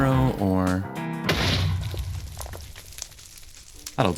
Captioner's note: Minecraft explosion